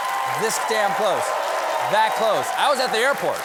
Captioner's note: cheers and applause